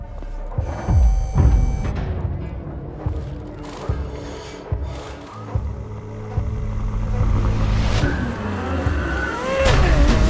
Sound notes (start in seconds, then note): 1.8 garage sounds